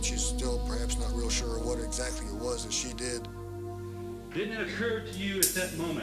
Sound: voiceover

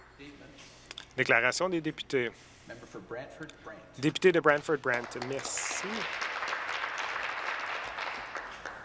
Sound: applause

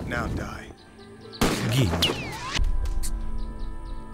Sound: bullet whizzing

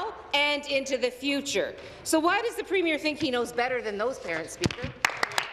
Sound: applause

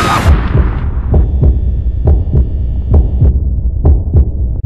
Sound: heartbeat

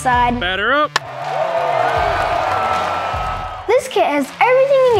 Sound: crowd cheers

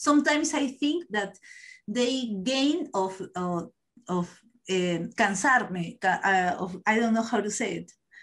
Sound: spanish

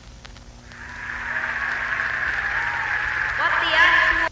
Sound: cheering starts again

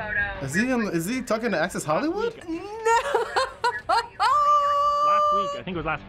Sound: laughs

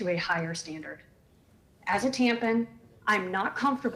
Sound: ~audio distortion~

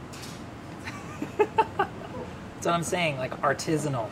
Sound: laughing

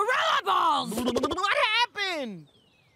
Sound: blubbers

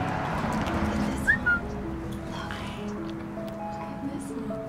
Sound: whistle

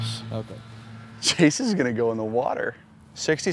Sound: laughs

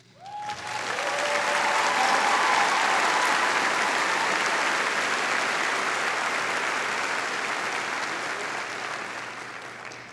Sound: applauding

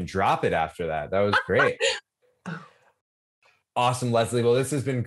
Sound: laughing

